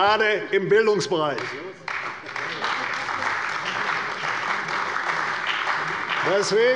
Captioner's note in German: Beifall bei der CDU und dem BÜNDNIS 90/DIE GRÜNEN